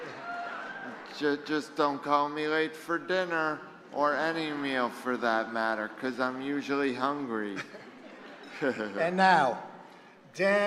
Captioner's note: laughs